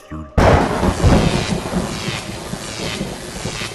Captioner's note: thunderclap & lightning